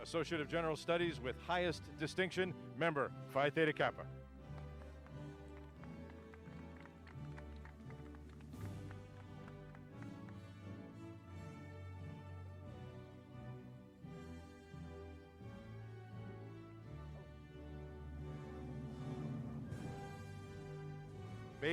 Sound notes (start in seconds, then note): 4.3 applause